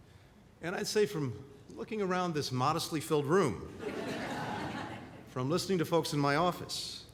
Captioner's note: laughter